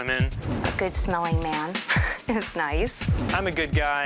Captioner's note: chuckles